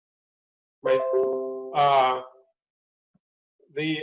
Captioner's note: microsoft windows sound